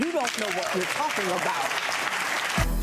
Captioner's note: clapping